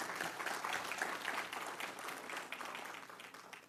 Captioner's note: applause